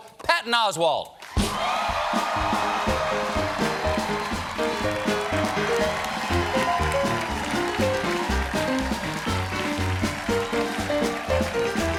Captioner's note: cheers and applause; band playing